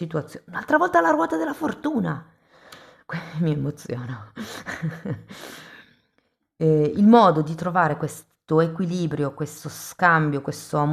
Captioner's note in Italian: risate